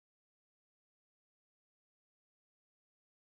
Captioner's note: none